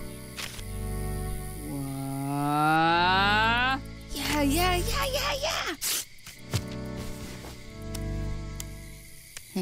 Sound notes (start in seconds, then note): 6.0 tears page